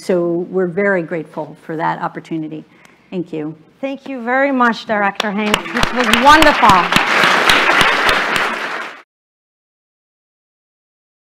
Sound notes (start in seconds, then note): 6.7 applause